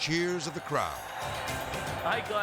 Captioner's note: crowd cheering